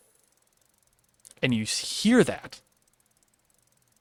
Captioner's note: a light, slower clicking noise